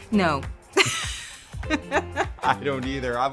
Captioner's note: both chuckle